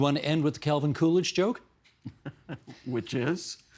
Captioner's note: chuckling